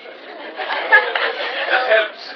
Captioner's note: laiughter